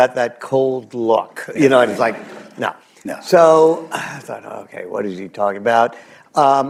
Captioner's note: laughter